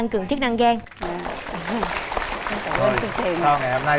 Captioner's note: applause